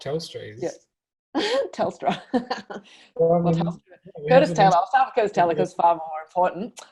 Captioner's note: laughs